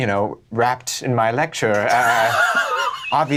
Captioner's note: laughs